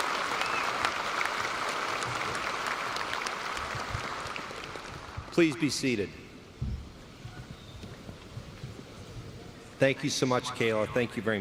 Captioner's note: applause